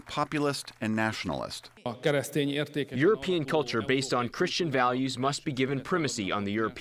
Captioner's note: through translator